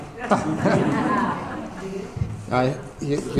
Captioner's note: audience laughter